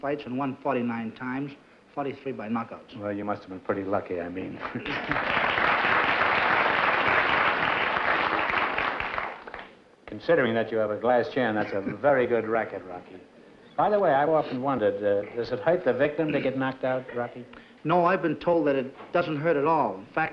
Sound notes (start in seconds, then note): 4.6 applause